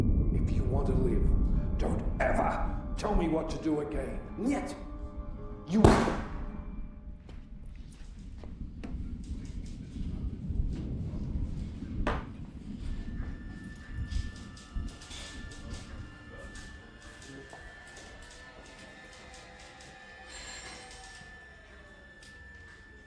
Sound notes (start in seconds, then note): 4.3 speaking in a foreign language; 5.8 gun firing; 8.5 thunder crashing; 13.5 dramatic music; 20.3 phone ringing